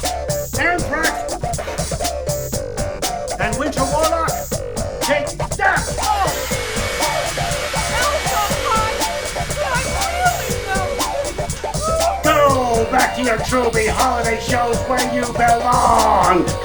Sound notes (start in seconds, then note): 5.7 hair dryer blowing